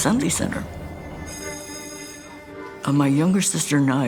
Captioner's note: bell ringing